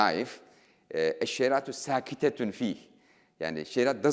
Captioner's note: speaking in foreign language